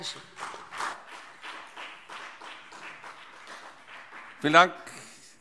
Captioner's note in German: Beifall BÜNDNIS 90/DIE GRÜNEN und vereinzelt CDU